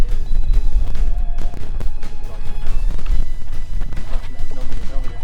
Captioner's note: wind blows